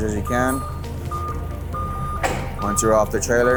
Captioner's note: lift alarm beeps